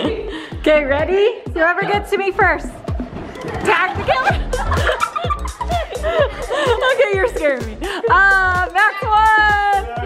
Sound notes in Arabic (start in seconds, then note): 5.4 الكل يضحك